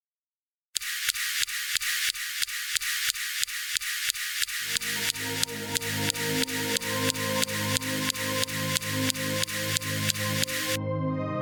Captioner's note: Recording: SuperCam laser zapping Martian rock, Sol 12